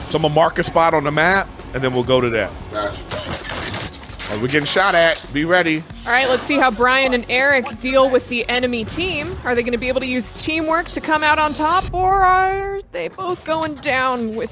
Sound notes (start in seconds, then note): 3.0 bullets firing